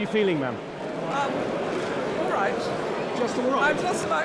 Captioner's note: camera shutters clicking